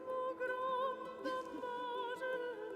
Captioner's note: woman laughs